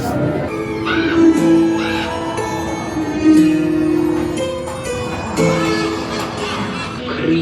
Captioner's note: eerie music; thunder rumbles; macabre music; crow cawing